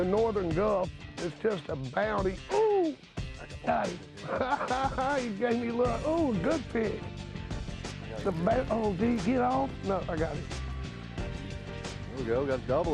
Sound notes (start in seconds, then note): 4.1 laughs